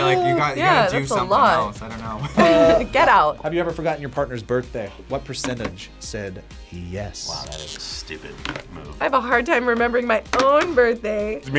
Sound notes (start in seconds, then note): 2.0 laughs